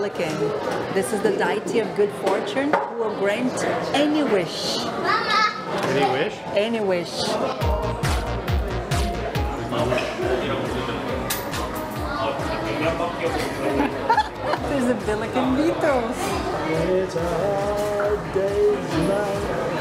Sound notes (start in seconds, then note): 13.3 laughs